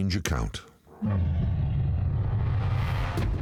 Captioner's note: growling